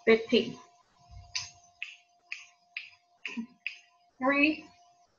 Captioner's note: fingers snapping